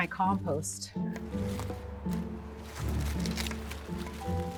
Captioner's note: leaves rustling